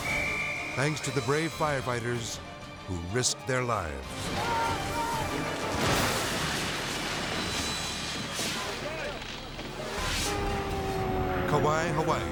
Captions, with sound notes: (whistle blowing) thanks to the brave firefighters who risked their lives. (firemen shouting) (building collapsing) (hurricane siren blaring)